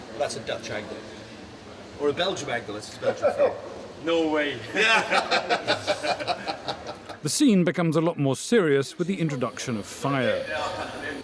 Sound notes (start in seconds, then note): 4.7 laughter; 4.8 laughs